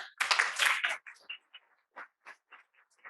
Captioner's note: applause